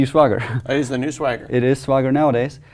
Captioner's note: laugh